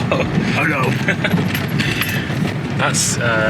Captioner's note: laughs; in funny deep, dog-life voice